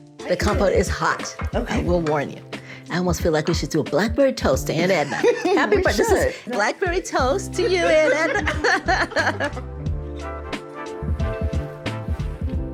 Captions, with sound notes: >>The compote is hot. I will warn you. I almost feel like we should do a blackberry toast to Aunt Edna. Blackberry toast to you, Aunt Edna! (laughs)